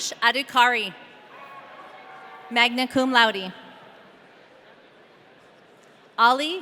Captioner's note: audience cheering